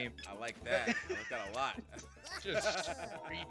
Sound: laugh

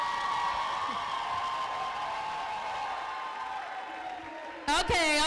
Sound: cheering

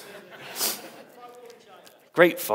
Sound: audience laughs

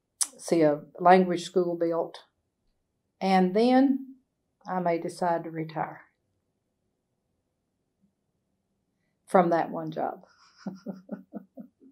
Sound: laughs

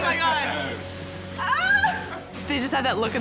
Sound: shrieking

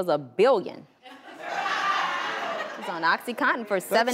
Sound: audience laughs

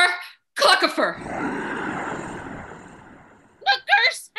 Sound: magical wind

